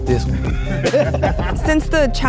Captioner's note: laughing